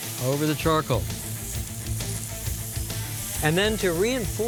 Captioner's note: sizzling